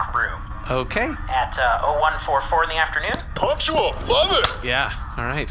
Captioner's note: crushes can